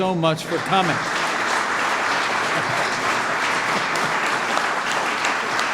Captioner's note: applause